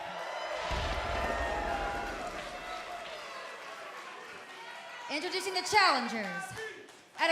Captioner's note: crowd cheering